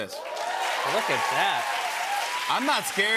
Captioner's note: cheers and applause